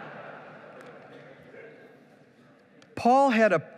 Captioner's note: laughing